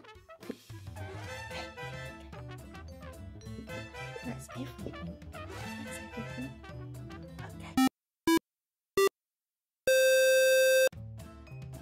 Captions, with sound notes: Oooh heh! (Whispering) That's everything...ok... (Retro video game beeps, counting down)